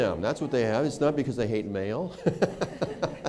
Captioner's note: laughter